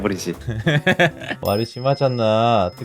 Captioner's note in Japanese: くくく